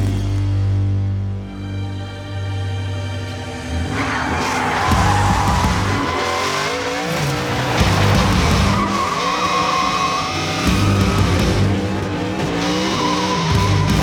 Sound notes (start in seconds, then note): 4.6 tyres getting fried